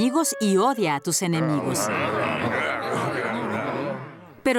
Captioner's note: grumbling